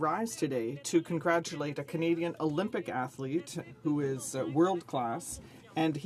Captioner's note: some Applause